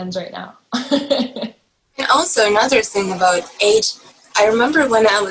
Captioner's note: laughs